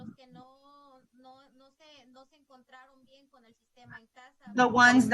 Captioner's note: speaking in Spanish